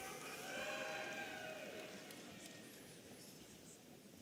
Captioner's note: audience cheering